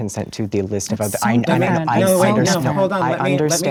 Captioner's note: excited group cross-chatter